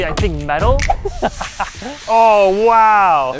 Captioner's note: bat sizzling